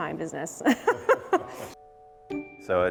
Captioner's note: laughs